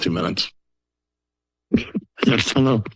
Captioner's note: silence